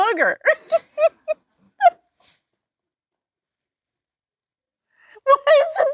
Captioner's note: Jennifer and Lisa laughing